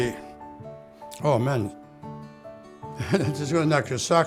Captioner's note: laughs